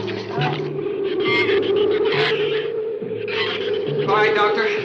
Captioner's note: shrews chatter; wind howls